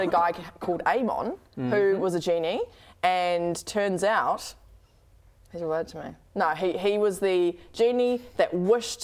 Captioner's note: none